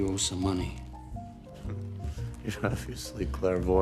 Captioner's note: chuckles sarcastically